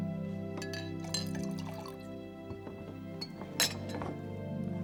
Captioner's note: gentle music; glasses clinking; gentle music; liquid pouring; gentle music; glasses clinking